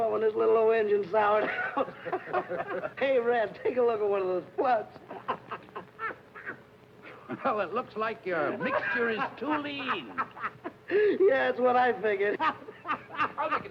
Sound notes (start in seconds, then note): 1.4 happy laughing; 5.0 happy chuckling